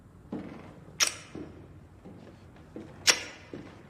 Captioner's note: clicking